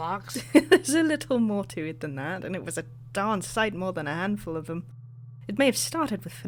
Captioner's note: laughs